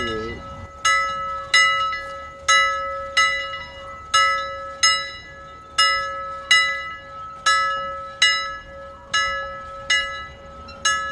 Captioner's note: bell rings; bell continues ringing